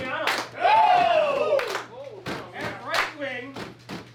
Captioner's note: cheering